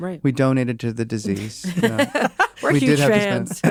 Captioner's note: laugh